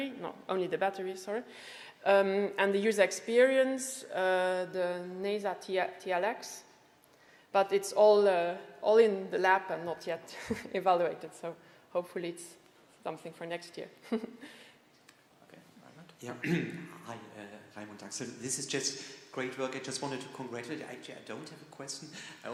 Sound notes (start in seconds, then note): 14.0 chuckles